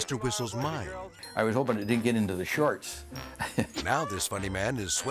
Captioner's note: laughs